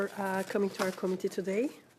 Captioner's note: speaking French